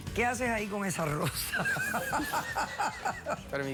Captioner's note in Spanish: risas